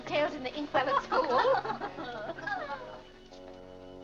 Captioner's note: women laughing